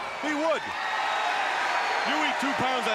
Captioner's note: crowd cheering